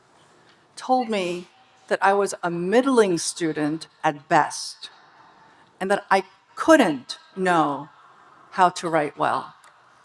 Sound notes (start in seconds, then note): none